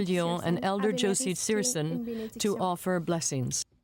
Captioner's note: speaking French